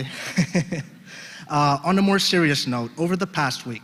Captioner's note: laugh